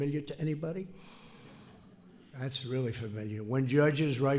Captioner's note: laughter